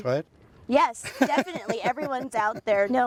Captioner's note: laughs